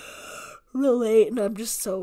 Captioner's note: yawning